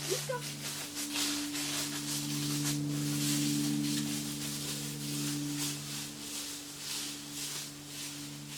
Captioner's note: sound of walking on dry leaves